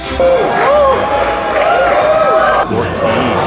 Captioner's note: crowd cheering